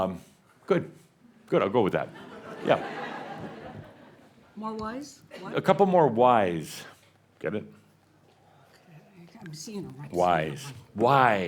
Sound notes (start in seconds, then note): 2.2 more chuckles